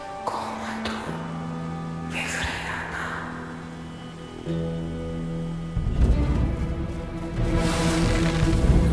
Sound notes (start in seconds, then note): 0.5 speaking in foreign language; 6.1 dramatic music